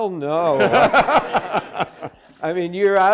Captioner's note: audience laughing